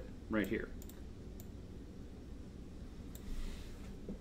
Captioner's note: mouse clicks